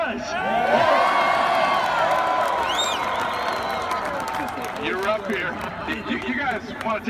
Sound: applause

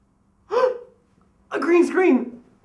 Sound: excited gasp

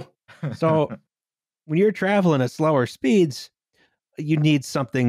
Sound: small laugh

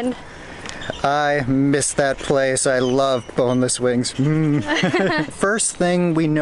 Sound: laughter

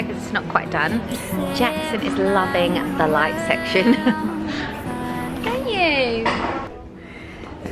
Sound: laughs

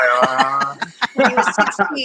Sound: men laughing

